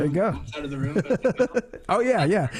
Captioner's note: laughs